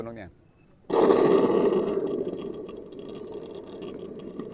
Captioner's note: creates thunder sound